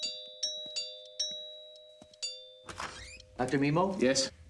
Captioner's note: doorbell rings